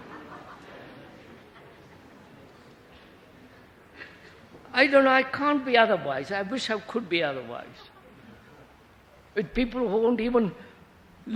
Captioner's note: laughter